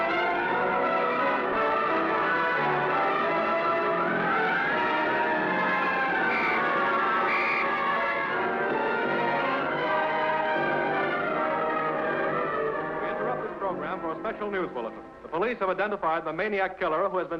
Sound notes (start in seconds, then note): 1.1 sirens wailing; 6.6 whistle blowing; 9.8 suspenseful music; 13.6 radio Announcer